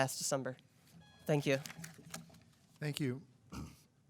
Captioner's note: timer buzzing